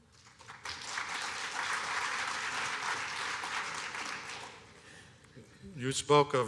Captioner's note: applause